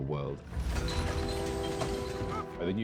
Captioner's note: rumbling; clattering